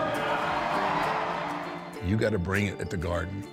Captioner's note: audience cheering